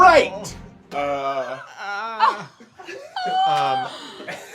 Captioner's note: groans in pain